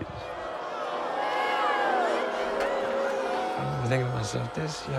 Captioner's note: crowd jeering